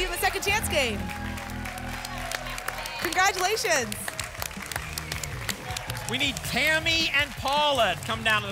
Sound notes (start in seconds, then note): 4.3 applause and cheering